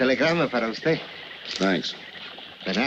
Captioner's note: Tomaso speaking in foreign language